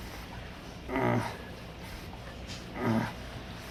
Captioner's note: grunting Continues